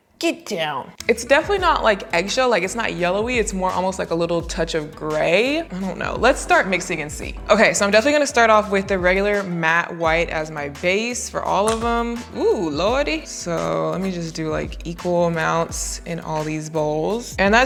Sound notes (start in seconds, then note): 11.8 paste squishes